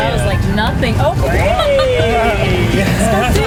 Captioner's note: laughs